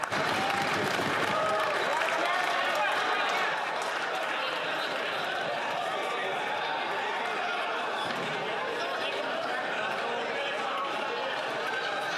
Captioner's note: some Applause